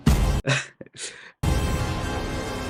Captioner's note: laughs